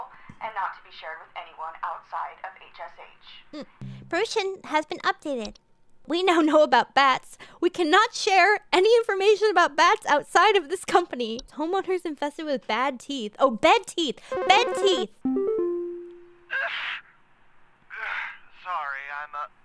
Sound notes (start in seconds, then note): 3.8 agreement hm; 16.8 achoo